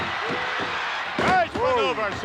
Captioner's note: hand tapping